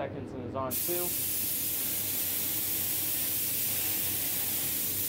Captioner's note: spray gun hissing